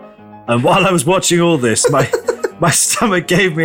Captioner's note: laughing in Korean